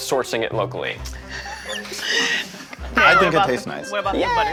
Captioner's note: laughing